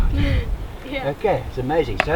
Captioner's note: gleeful laugh